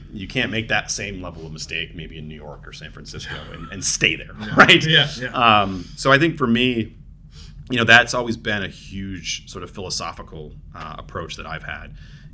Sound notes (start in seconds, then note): 3.2 laughs